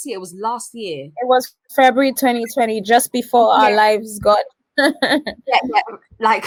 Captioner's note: laughs